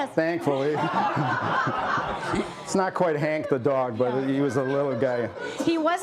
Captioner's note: laughter